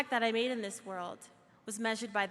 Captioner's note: none